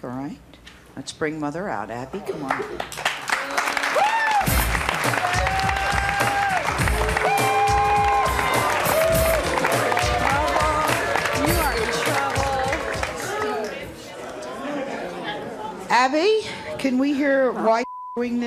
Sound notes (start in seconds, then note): 3.3 applauding and booing